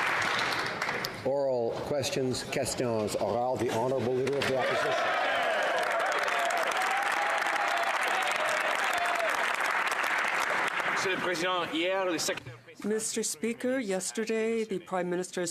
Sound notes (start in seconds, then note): 0.0 applause; 7.4 speaking French; 9.4 some Applause